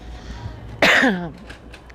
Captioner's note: coughing